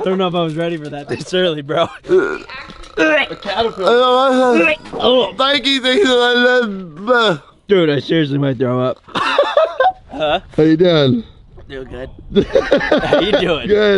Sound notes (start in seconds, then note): 1.8 gags; 3.3 speaks gibberish; 9.0 laughs